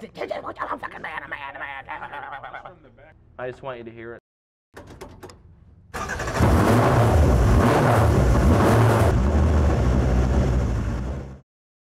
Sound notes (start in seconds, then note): 6.0 car engine roars